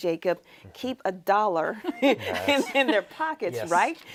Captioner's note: laughs